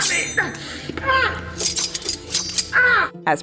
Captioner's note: Newton grunts in pain; more knife swishy sounds